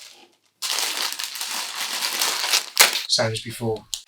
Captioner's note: wrapper crinkles